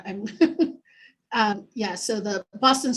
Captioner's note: laughing